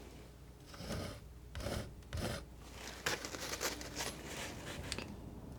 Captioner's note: scratching